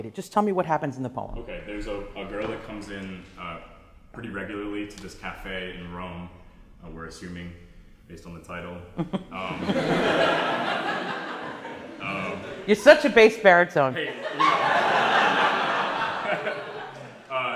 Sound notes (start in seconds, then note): 9.0 laughing; 13.9 class laughs